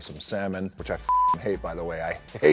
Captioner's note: beep